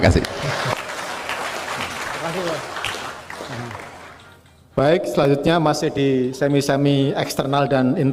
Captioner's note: applause